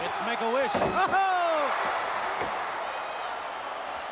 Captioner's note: exclaims; audience cheering